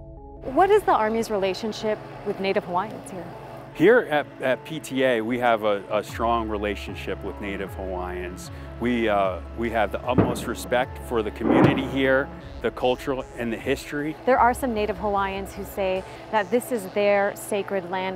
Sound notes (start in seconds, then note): 10.1 bang; 11.3 explosion sounds